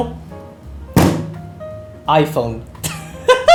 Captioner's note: slam!; laughs